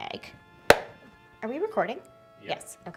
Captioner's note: claps